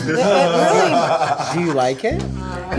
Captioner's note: all laugh